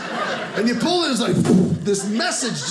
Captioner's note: poof